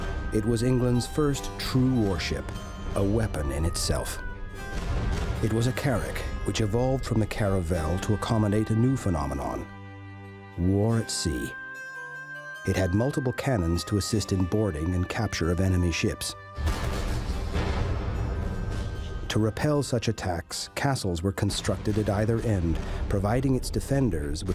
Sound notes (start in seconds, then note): 16.6 booming